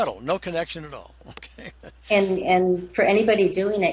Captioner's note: chuckles